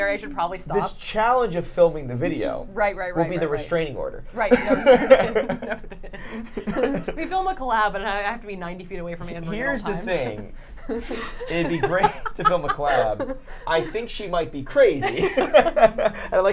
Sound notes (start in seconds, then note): 4.5 laughs; 9.3 laughing; 15.8 laughs